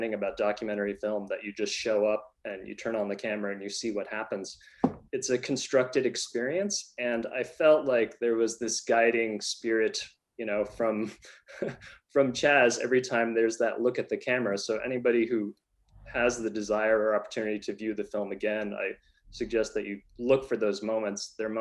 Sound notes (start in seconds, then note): 11.2 laughs